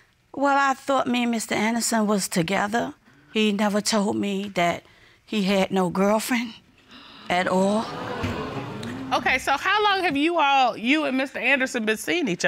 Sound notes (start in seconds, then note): 7.8 audience exclaims